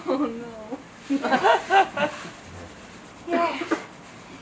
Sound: rustling of fingers

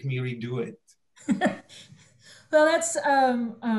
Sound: laughing

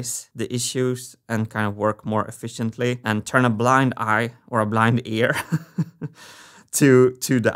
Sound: chuckles

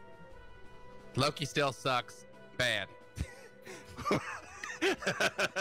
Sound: laughing

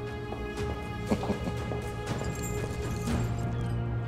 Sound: bead curtain door sound

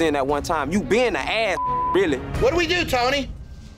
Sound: beep

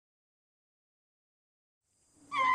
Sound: lemur squeaks

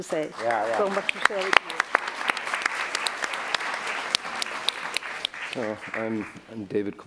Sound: applause

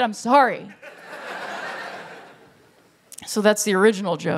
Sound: laughter

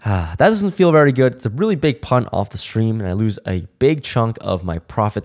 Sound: sigh

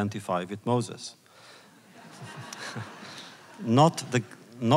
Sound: laughter

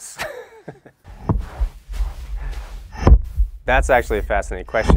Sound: rhythmic thudding

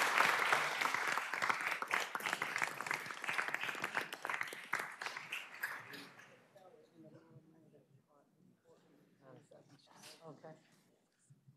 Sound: applause

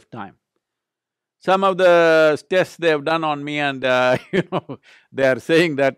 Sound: laughs

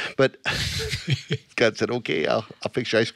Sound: all laughing

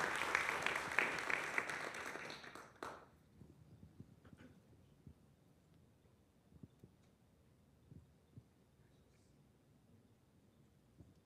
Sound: applause

